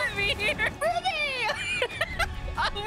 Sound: laughter

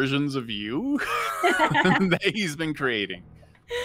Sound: players laughing

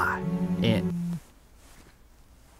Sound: phone buzz

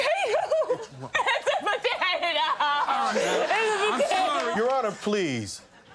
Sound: crying

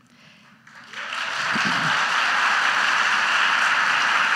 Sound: audience applauds

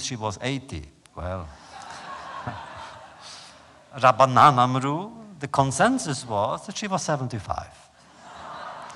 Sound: laughter; laughter

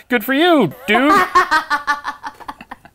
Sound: laughs

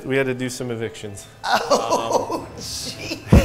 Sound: laughs

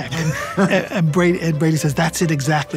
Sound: laughs

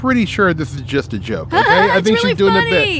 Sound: laughs

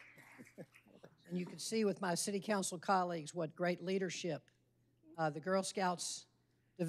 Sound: laughter

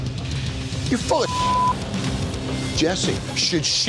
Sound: beep

